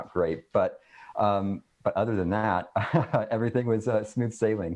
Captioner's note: laughs loudly